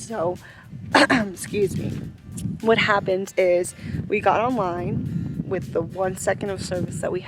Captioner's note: cough